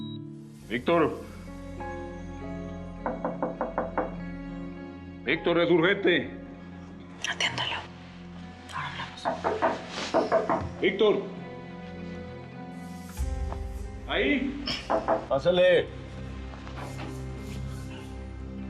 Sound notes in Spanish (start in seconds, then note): 9.2 Siguen los toques en la puerta